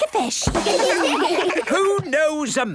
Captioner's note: children laugh